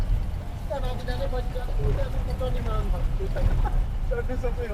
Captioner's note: indistinct chatter, engine hum